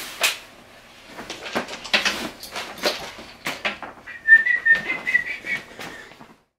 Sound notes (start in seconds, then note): 4.0 whistling